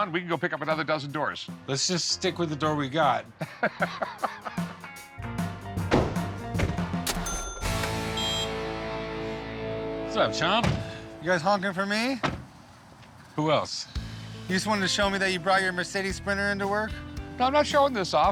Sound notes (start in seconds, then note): 3.3 laughs; 7.6 horn honks